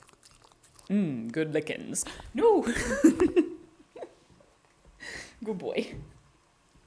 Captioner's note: happy puppy licking sounds; laughter; gasp